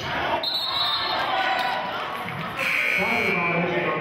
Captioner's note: whistling and buzzer sounding